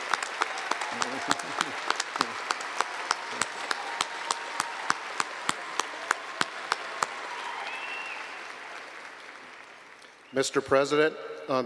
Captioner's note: applause